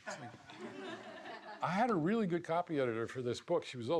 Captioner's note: laughs